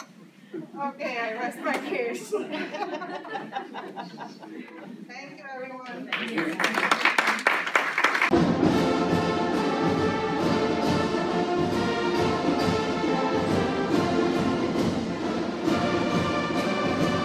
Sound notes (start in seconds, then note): 5.8 applause; 8.7 triumphant music